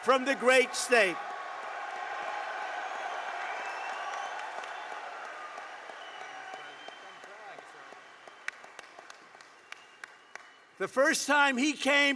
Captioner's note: applause